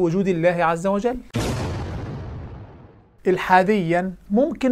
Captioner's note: sound effect